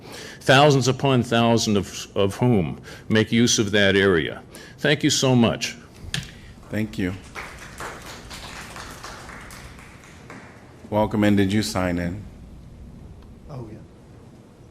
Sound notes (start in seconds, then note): 6.2 applause